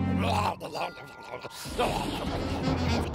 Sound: thunder crashes

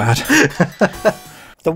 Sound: chuckles

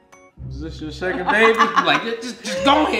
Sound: laughing

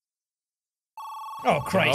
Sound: phone rings

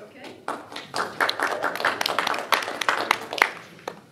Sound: applause

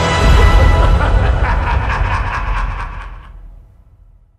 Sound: eerie laugh

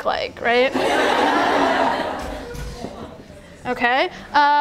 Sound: attendees laughing

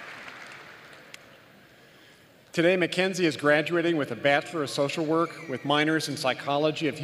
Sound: applause

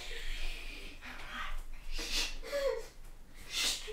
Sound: quite loud shushing

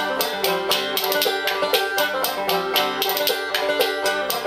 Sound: banjo strumming; spoons clacking

